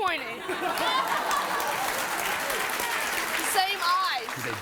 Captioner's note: audience laughs